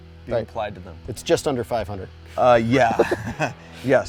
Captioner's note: laughs